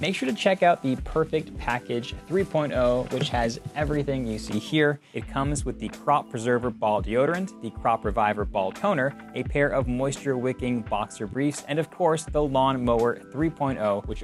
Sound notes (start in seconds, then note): none